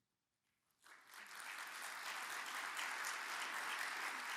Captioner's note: audience applauds